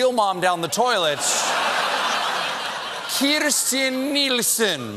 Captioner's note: laughter